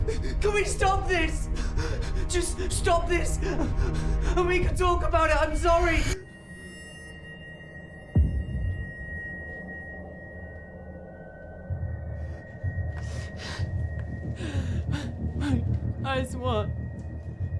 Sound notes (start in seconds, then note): 11.6 background panting; 11.6 threatening music continues